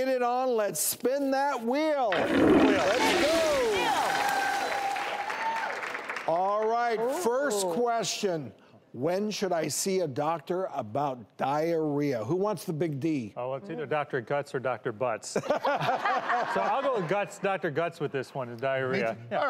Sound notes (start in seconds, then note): 2.1 toilet flushing; 2.5 audience cheering; 15.4 all laughing